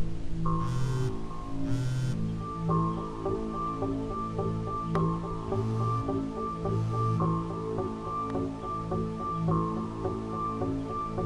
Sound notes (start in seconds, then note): 0.6 phone vibrating; 3.3 eerie music